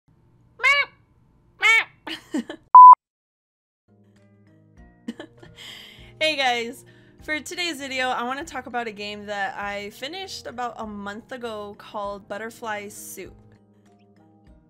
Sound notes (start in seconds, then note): 3.0 laughs